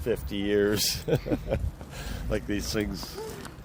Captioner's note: laughs